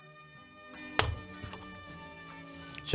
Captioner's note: clicking